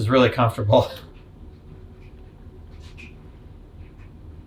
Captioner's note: clock ticking